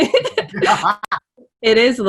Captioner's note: laughing